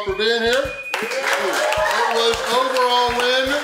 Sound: cheering & Clapping

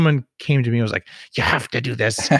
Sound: laughs

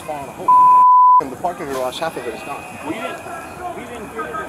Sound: beeping

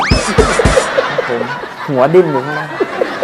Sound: laughing sound

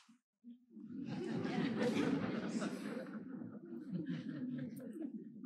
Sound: crowd laughs

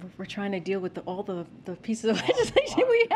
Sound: laughs

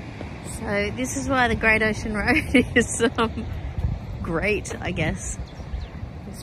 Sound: laughing

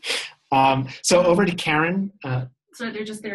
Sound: chuckle

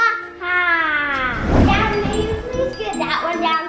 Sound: swooshing; upbeat bell music

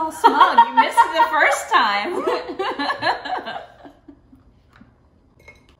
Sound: laughing

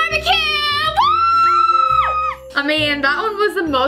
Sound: both squeal

